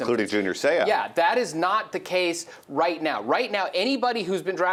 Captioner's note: voiceover